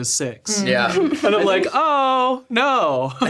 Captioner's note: laughs